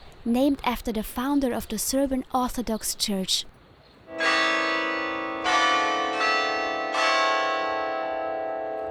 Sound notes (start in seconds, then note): 4.1 church bells ringing